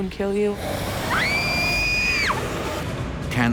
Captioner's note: girl screams